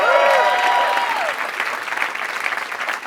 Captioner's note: applause